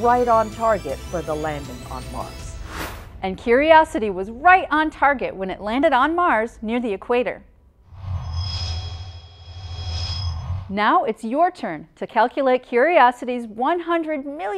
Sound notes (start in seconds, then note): 7.9 sound Effects